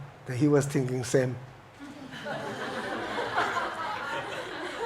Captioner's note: audience laughs